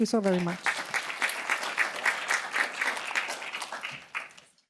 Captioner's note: applause